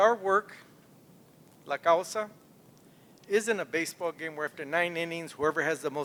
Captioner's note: non-english speech